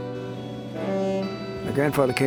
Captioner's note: quiet string music; steam boat horn